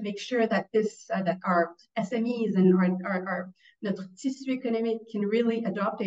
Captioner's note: speaks in French